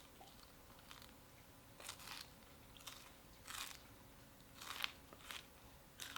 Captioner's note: crunches